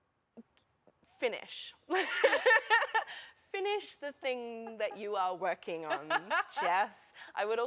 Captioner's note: laughter